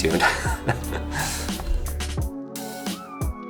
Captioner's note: chuckling; chill hip hop music